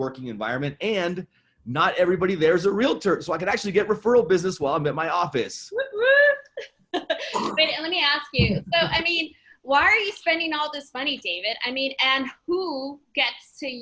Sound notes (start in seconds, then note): 3.5 laughs loudly